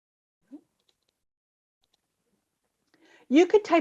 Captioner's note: mouse clicking